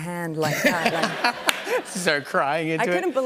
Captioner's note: laughter